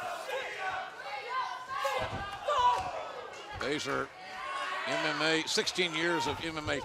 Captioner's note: fans chanting